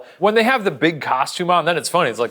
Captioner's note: none